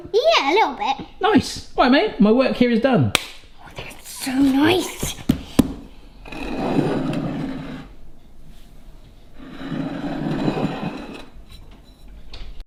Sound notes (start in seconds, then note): 3.1 hands slap; 6.5 plate scrapes on counter; 9.4 plate scraping slowly on counter